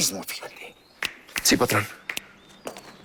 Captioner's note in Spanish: Ruido al tronar dedos